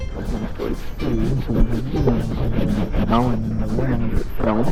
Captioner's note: microphone rustling